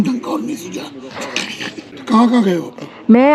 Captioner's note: laughing at the back